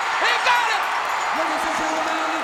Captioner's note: bell ringing